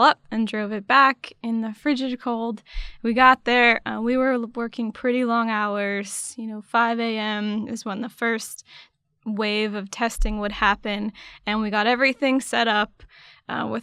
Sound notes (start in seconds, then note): none